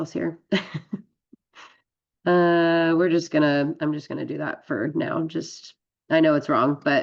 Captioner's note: laughs